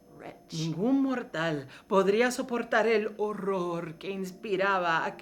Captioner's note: speaking in foreign language